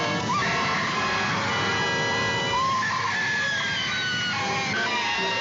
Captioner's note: screaming